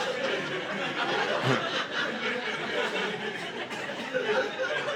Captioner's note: audience laughing